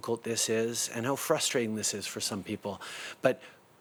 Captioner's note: speaking in French